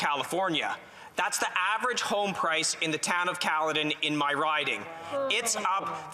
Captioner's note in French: voix de l'interprète